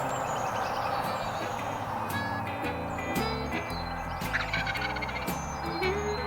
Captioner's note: turkey calls; blues music